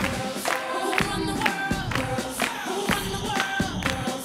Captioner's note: performer's clapping